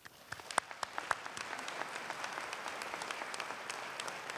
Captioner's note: applause